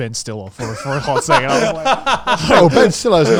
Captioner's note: laughing